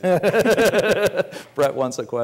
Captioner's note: laughing